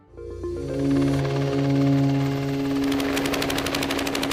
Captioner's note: chopper whirling